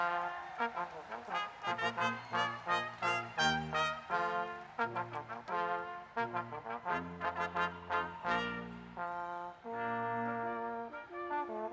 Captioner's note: cheers and applause